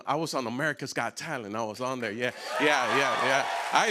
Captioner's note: cheers and applause